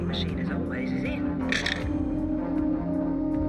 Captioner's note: receiver clicks